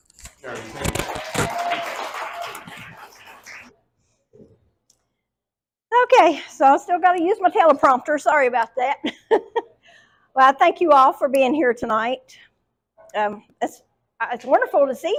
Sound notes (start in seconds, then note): 2.9 applause; 9.2 laughs